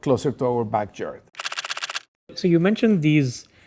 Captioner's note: camera clicking